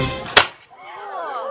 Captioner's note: Shot